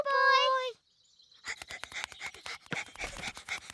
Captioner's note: panting